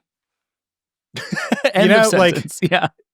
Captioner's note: laughing